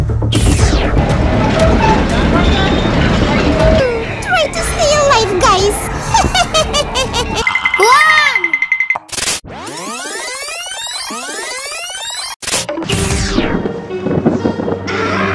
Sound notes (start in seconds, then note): 0.0 train sounds and music; 9.1 reverse back sound; 12.8 scary Halloween music